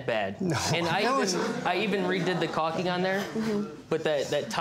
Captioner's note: audience murmuring